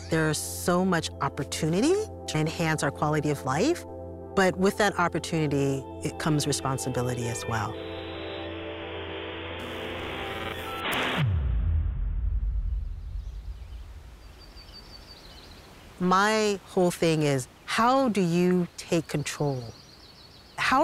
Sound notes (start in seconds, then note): 7.5 static crackling; 12.9 birds chirping